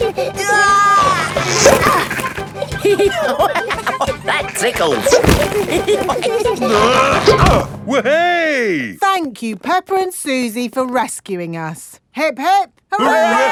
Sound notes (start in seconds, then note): 1.1 giggling; 3.0 laughing; 5.8 all giggling; 6.6 grunting